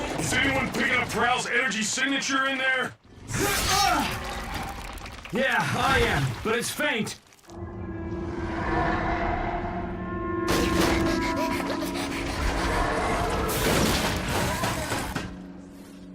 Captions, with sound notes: Is anyone picking up Prowl's energy signature in there? (EXCLAIMING) Yeah, I am, but it's faint. (CREATURE ROARING) (PANTING)